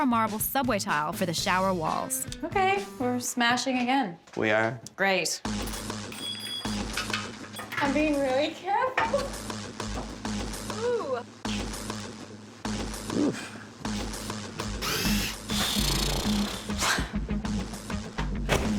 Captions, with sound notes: and Carrara marble subway tile for the shower walls. Okay. We're smashing again. We are. Great. I'm being really careful. Ohh. Ohh! [ Tool whirs ] [ Sighs, laughs ]